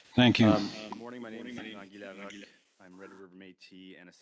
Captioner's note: speaking in French